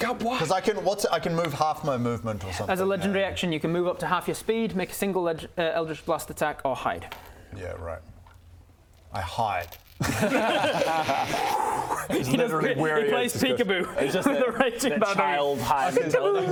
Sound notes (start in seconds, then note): 10.0 unconvinced laughter